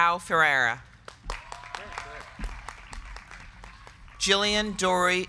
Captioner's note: crowd clapping; crowd cheering